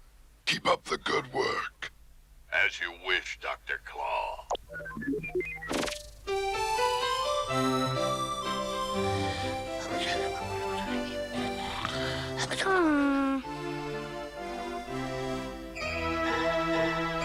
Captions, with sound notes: KEEP UP THE GOOD WORK! AS YOU WISH, DR. CLAW. (SNORING) (SIGHS)